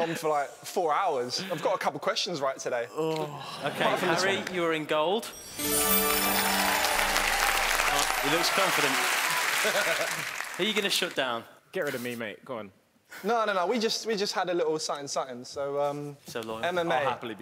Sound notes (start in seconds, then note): 2.9 groaning; 5.3 chiming; 5.6 cheering